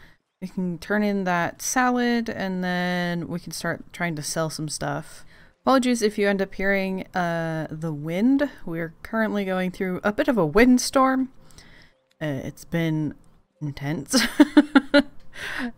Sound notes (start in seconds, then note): 14.1 laughs